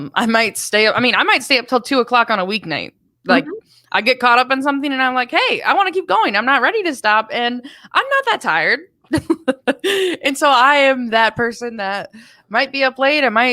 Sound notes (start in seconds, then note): 9.1 chuckles